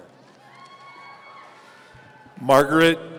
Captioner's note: audience cheering